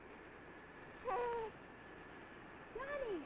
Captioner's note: baby babbling